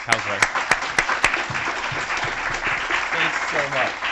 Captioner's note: applause